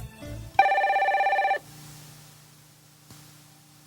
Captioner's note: phone ringing